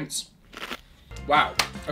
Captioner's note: lettuce crunches